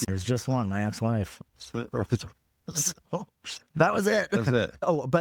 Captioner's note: laughing